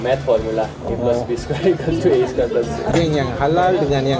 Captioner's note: laugh